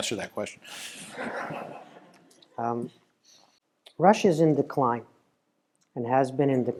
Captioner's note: laugh